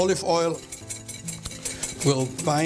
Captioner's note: whisking